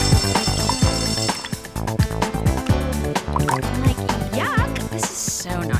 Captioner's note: school bell ringing